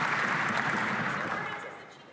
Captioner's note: some Applause